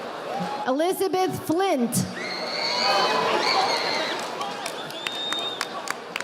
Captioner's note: audience applauding